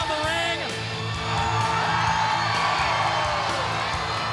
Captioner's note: crowd cheering